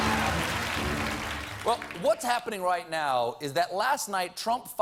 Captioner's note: applause